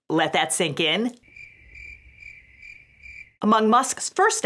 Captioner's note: crickets chirping